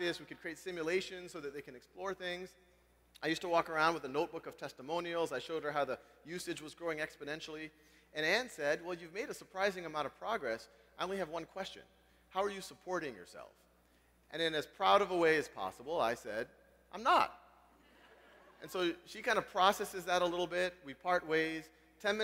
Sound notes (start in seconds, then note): 17.6 laugh